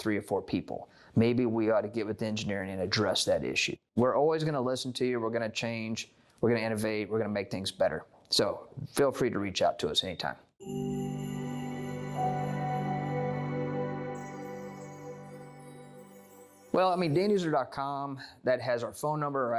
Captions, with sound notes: or 4 people, maybe we ought to give it to engineering and address that issue. We're always going to listen to you. We're going to change. We're going to innovate. We're going to make things better. So feel free to reach out to us anytime. [Chime Sound] Well, I mean Danuser.com that has our phone number,